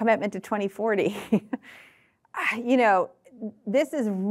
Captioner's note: chuckling